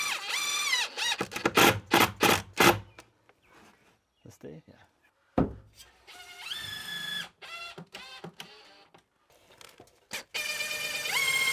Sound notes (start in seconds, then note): 1.0 drill clicking; 6.1 drill whirring